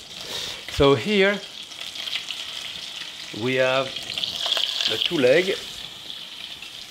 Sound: fat sizzling

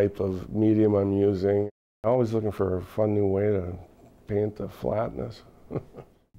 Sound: laughs

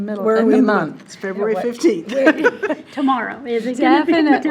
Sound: laughs

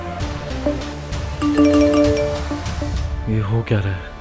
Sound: phone beeps

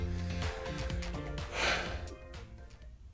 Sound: sighing

